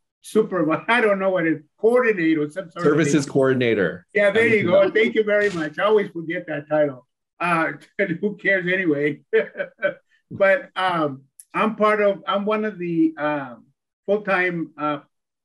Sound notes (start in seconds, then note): 9.2 chuckles